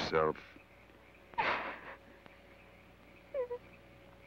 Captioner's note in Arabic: لورا تبكي